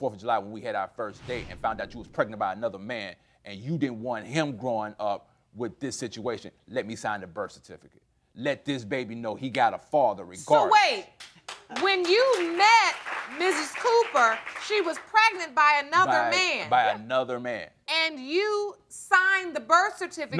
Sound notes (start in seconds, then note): 11.2 audience applauding